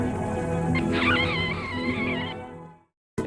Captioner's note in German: Vogelgeräusch